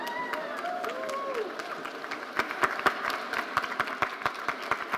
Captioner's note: audience applauding